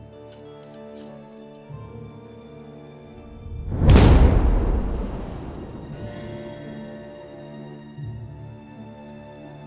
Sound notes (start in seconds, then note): 3.8 shovel striking; 6.0 soft music